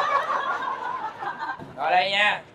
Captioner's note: laughing